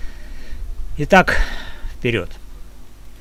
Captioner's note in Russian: вздыхает